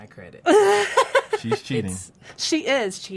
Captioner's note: laughs